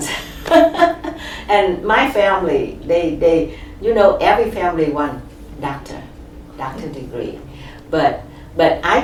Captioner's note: laughs